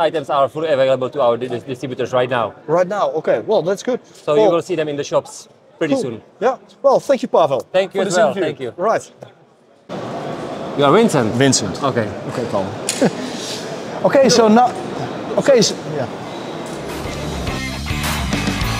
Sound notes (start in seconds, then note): 12.9 laughs